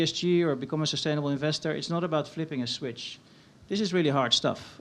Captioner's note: none